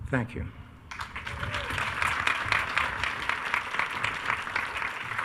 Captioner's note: attendees cheering